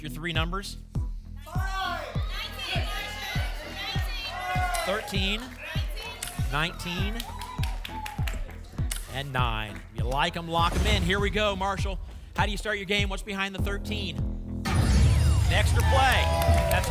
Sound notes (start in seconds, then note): 1.5 audience shouting numbers; 6.9 cheering; 14.6 boom